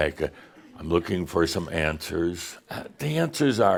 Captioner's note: in dull voice